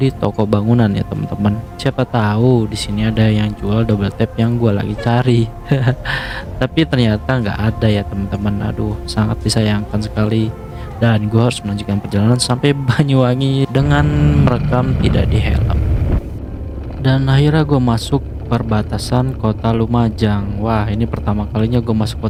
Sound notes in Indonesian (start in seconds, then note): 4.7 tertawa